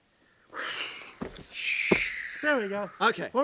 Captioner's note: exhales